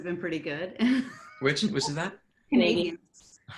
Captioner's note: laughs